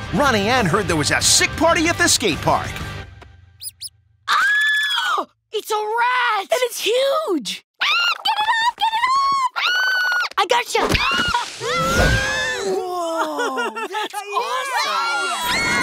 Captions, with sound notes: Ronnie Anne heard there was a sick party at the skate park! [screaming] - It's a rat! - And it's huge! Ahh, get it off, get it off, ahh! I gotcha! [screaming] - Woah, that's awesome! - Woah!